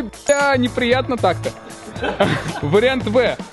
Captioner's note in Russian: смеются